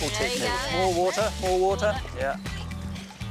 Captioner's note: laughs